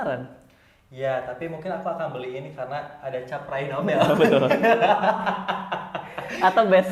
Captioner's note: laughing